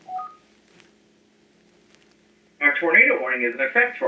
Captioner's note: beeps, Message on phone